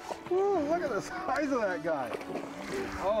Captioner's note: laughing